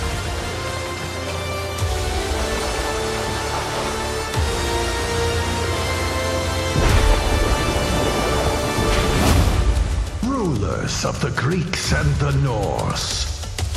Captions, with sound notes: [soaring music playing] [thunder crashing] Rulers of the Greeks and the Norse...